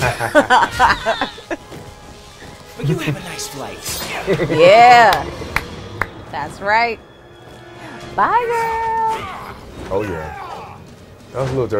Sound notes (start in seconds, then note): 0.0 laughing; 3.8 chuckling